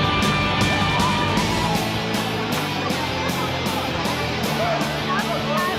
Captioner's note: upbeat music continues; people chattering